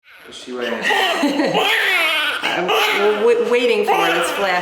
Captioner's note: newborn baby cries